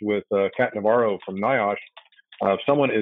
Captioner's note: keyboard typing noises